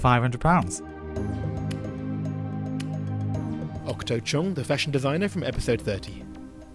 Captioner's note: voiceover